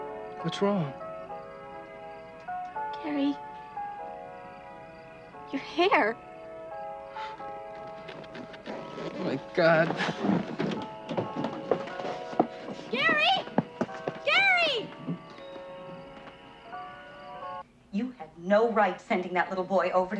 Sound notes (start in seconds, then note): 6.6 huffs; 15.2 radio music